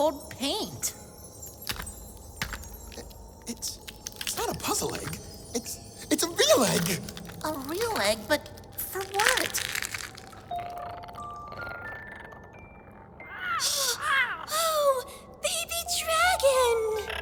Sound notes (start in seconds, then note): 1.4 the egg starts crackle cracking more as something hatches out of it; 9.8 the new baby chitters and makes adorable little roars; 13.3 gasps